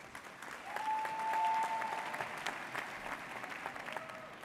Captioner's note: audience cheers